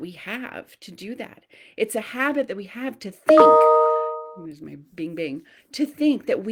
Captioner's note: notification sound